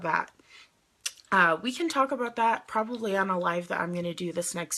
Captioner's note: clicks tongue